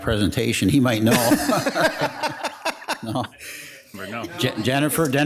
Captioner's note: council members laugh